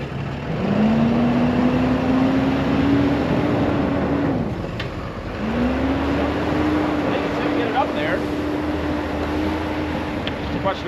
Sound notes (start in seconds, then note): 0.7 truck revs